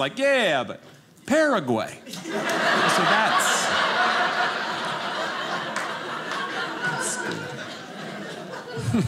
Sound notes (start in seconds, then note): 2.0 audience laughing